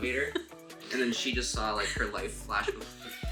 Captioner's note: laughing